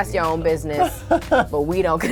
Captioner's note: laughs